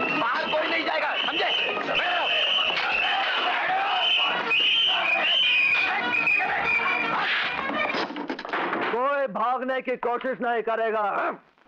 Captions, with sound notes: No one will go out. Understood. (Whistle blowing) No one will try to run from here.